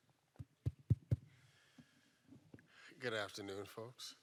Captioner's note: mic bangs